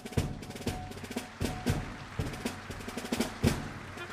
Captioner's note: applause